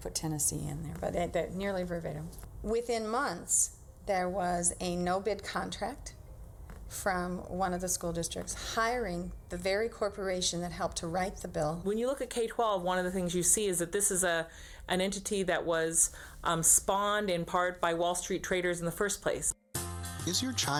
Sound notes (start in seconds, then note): none